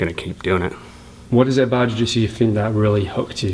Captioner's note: voiceover